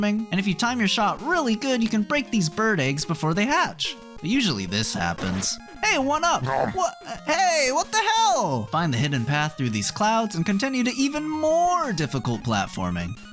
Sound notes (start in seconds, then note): 6.4 nom